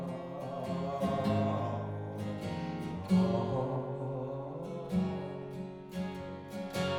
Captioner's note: humming